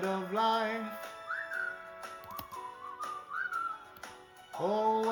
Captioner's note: whistle!!!